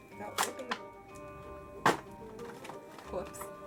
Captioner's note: book rips